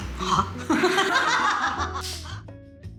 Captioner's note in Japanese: 大爆笑